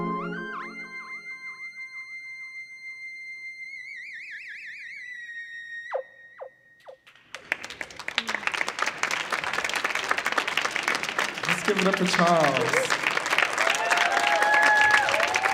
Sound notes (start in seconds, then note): 7.0 audience clapping